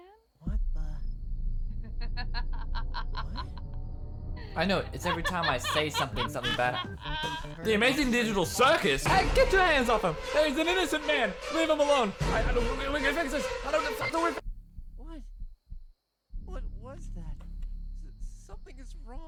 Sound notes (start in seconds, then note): 12.3 stuttering